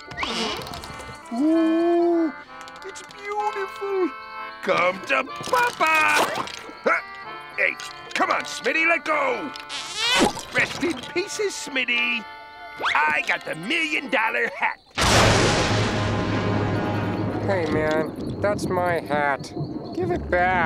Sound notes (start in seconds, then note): 15.0 thundering